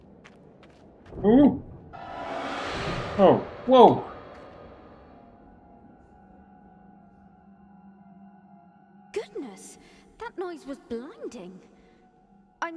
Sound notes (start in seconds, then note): 1.9 metallic screech